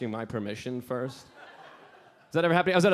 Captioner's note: audience laughing